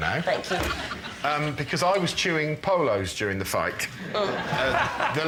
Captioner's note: laughter